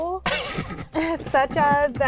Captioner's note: both laughing